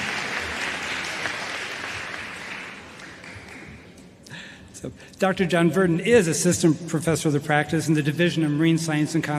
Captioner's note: applause